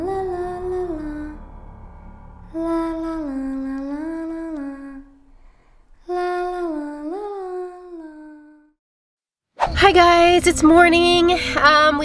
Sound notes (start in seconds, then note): none